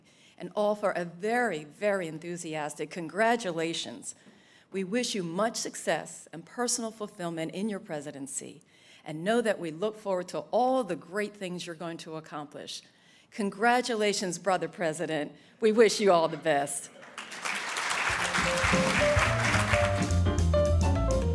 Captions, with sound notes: and all for a very, very enthusiastic congratulations. We wish you much success and personal fulfillment in your presidency and know that we look forward to all the great things you're going to accomplish. Congratulations, Brother President. We wish you all the best. (audience applauding) (upbeat jazz music)